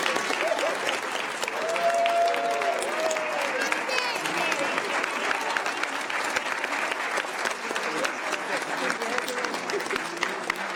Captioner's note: cheers and applause